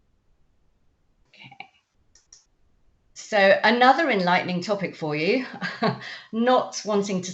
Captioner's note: chuckles